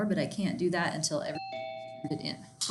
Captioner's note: notification bell chiming drowns out speech